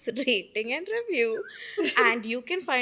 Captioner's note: laughing